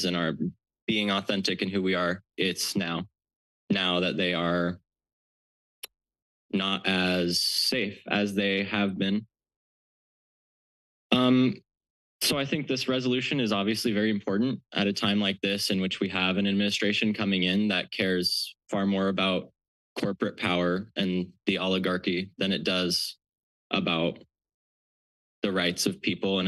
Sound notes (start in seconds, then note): 9.4 pause